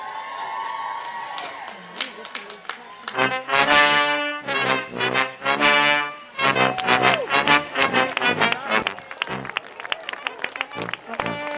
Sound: cheering and music

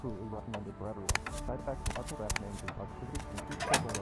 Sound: footsteps; footsteps; door opens

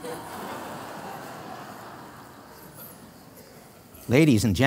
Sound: laughter

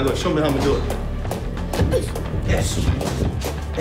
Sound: grunting

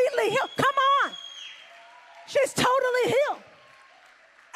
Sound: congregation cheers

